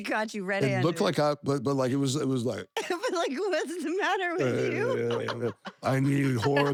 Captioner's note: laugh